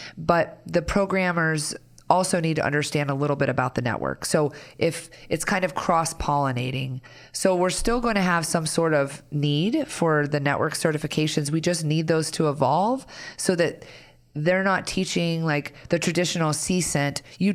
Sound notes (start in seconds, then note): none